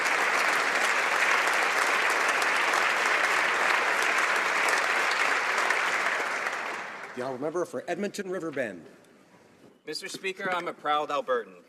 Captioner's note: applause